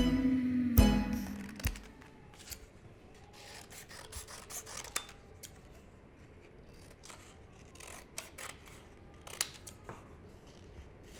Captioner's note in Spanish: sonido de tijera cortando papel